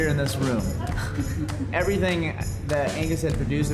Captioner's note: chuckling